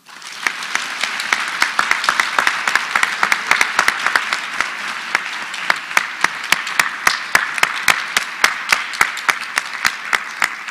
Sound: applause

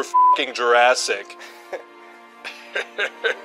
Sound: chuckles

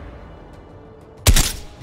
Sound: gunfire

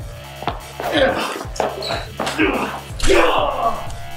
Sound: grunting

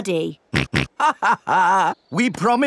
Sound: chuckles; snorts

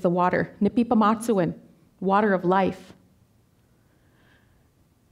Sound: speaking Danezaa

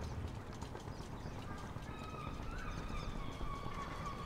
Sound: birds cawing

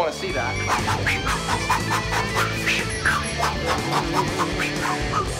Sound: making combat noises

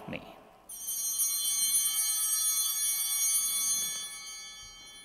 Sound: bell ringing

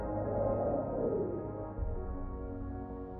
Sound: whoosh

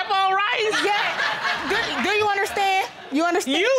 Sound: audience laughing

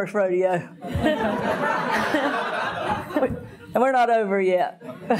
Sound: audience laughing

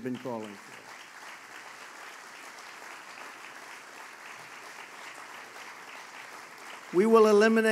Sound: applause

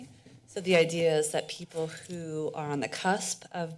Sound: none

